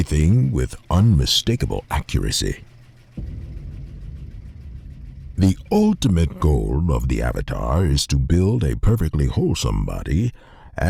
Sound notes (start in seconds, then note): 3.1 cinematic hit